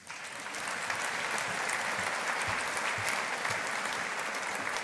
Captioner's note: audience applauding